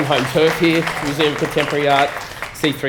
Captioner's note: applause